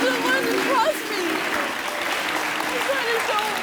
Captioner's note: audience applauding